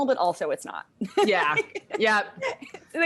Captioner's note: laughs